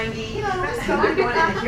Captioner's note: laughing